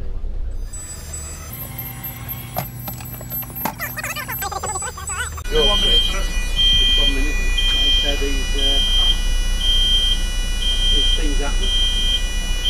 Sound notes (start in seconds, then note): 3.5 sped up talking